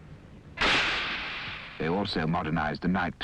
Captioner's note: gunshots